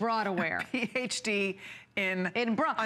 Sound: laughter

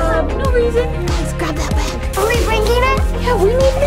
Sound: whispers

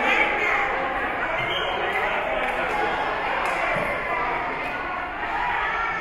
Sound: whistle being blown

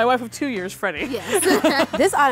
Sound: both laughing

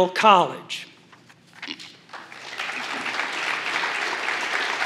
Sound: applause

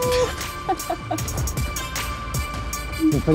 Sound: laugh

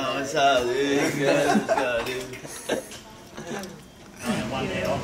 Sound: laughing

